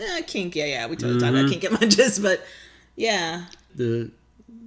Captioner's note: laughs